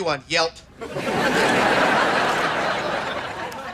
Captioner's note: laughs